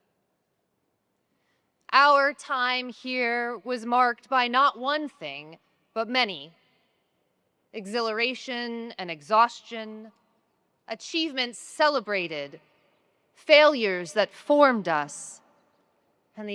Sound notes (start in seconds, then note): none